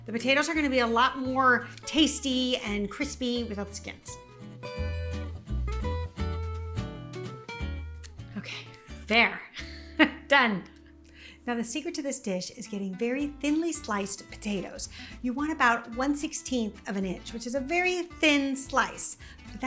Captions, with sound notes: The potatoes are gonna be a lot more tasty and crispy without the skins. (light music) Okay, there, (chuckles softly) done. Now, the secret to this dish is getting very thinly sliced potatoes. You want about 1/16th of an inch, which is a very thin slice,